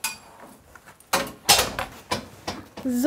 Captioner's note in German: Tür fällt ins Schloss